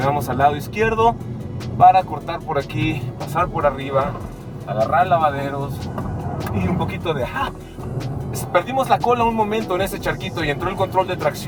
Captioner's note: sighs